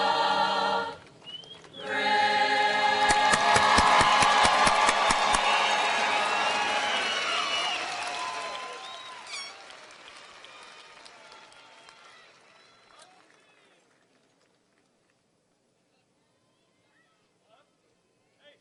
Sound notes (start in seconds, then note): 4.0 audience cheers and applauds